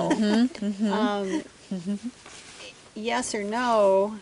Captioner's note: laughter